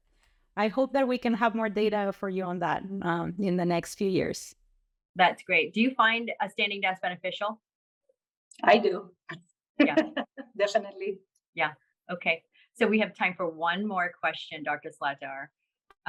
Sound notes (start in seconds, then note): 9.8 laughter